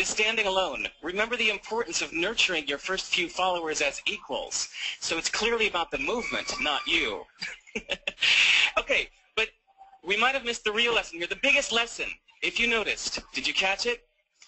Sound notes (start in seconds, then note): 7.4 video speaker laughs